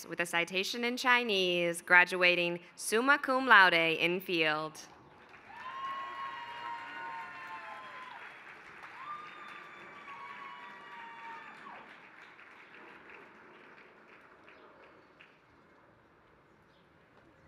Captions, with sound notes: with a citation in Chinese graduating summa cum laude in field. [APPLAUSE]